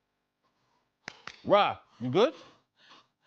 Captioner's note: clapping